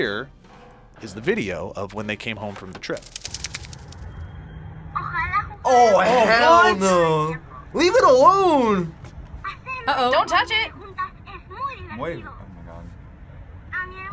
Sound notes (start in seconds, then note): 5.0 speaks Spanish